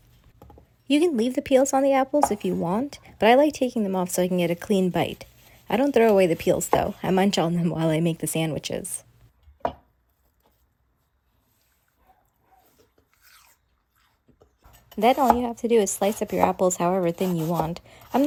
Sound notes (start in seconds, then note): 13.1 chomp